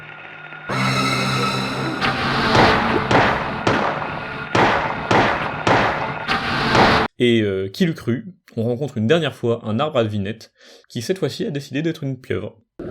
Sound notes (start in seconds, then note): 0.7 horror sounds and gun sounds